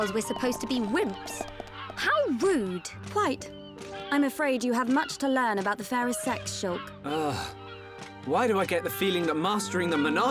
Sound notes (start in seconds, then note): 7.0 groan